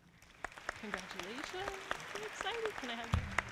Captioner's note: audience clapping